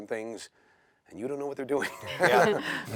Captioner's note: chuckling